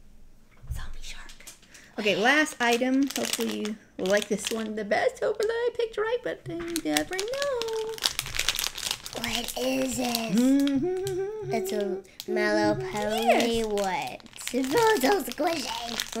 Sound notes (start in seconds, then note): 10.2 humming song